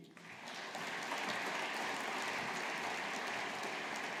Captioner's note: audience applauding